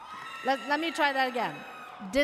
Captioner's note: audience cheers